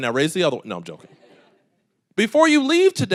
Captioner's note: audience laughing